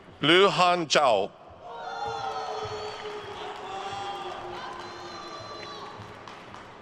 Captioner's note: attendees cheering and applauding